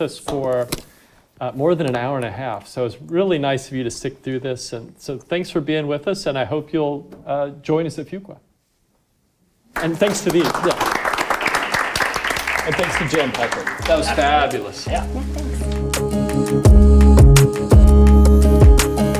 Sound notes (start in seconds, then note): 9.7 audience clapping; 16.4 upbeat music